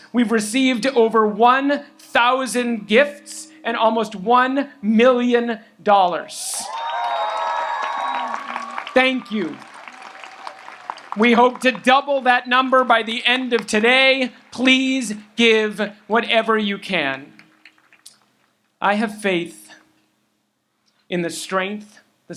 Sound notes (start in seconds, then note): 6.6 audience applauds and cheers